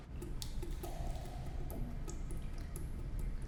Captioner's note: water drops